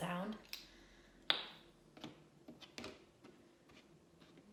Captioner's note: cube popping